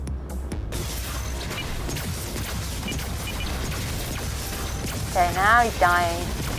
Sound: intense electronic music; lasers firing; beeping

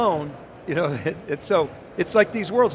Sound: chuckles

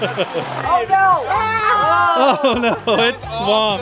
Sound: group groans

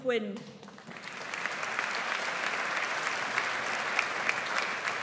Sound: audience applauds

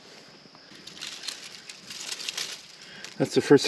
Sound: fire crackling

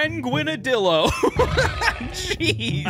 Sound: laughing

